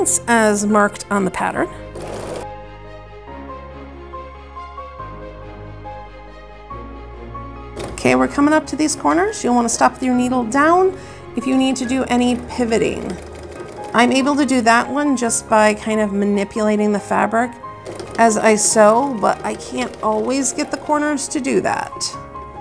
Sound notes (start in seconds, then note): 1.9 sewing machine rattles; 3.3 melodic music